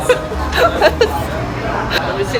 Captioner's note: laughs